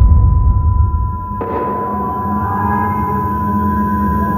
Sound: tinitus, a babble of voices far away, music dramatic

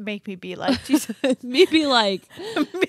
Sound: both laughing

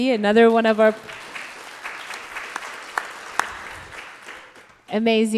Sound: audience applauding

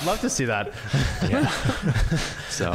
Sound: laughs

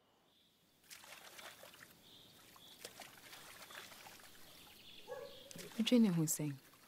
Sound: birds chirping and water lapping

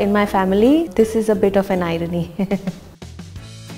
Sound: nervous laugh

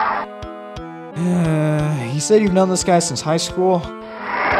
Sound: sigh

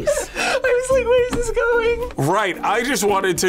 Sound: laughs

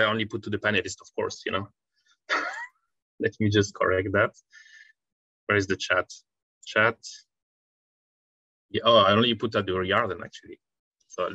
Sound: laughs

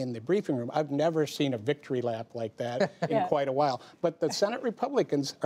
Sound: laughs

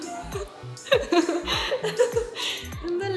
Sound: hahahaha

